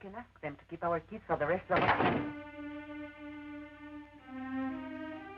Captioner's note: door slams